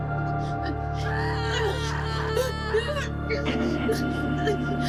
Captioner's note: Maya shrieks and pants